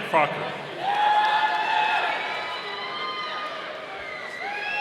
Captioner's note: audience cheering